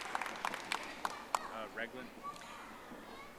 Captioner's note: audience applauding